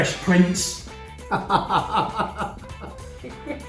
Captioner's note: laughing